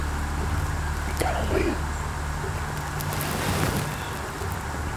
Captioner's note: sound of grunt call; whispered voices